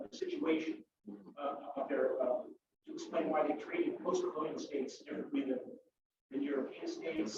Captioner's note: murmurs; murmurs